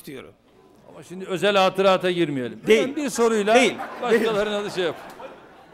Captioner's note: non-english speech